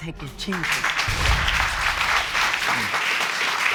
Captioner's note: audience applauding